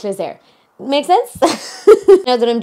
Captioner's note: laughing